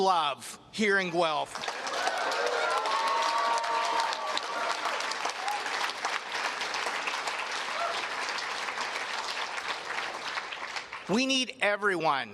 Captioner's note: cheers and Applause